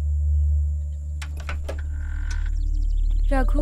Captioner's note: Door opens